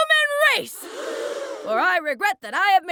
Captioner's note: audience gasps